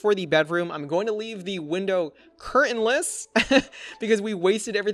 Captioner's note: laughs